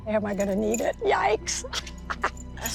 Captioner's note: laughs